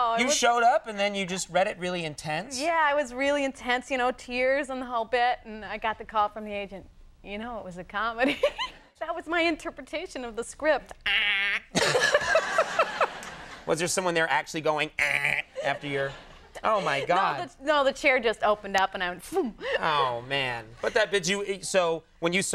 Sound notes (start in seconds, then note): 11.0 laughing